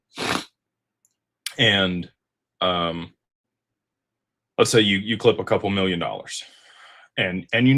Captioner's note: snorts